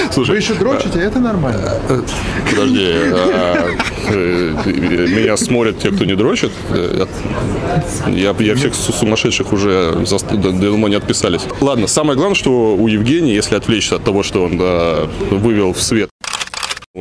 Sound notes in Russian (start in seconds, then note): 2.5 смех